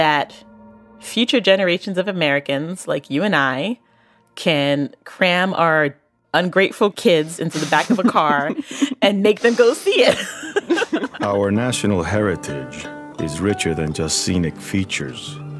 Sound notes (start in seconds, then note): 7.4 chuckles; 9.2 both laugh